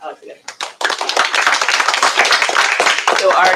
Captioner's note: applause